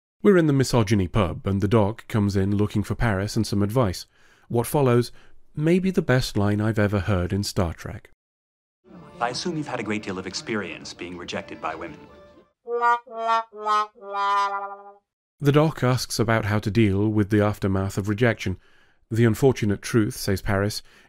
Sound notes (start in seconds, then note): 12.6 sad Trombone